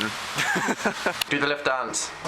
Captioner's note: Young Dan laughs